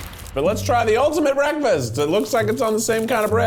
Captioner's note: rustling